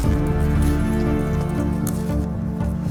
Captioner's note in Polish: odgłos kroków